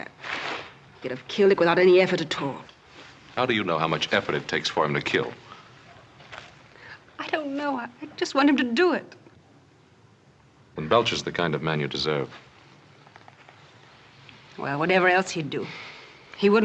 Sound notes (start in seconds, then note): none